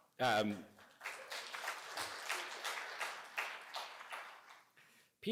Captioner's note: applause